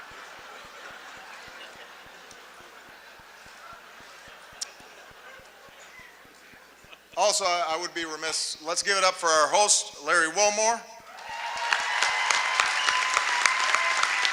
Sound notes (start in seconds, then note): 0.0 laughter